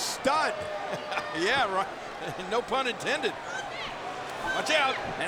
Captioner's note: crowd cheering; laughs; Lana yelling